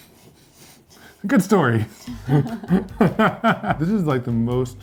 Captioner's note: both laughing